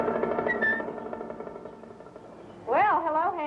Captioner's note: whistling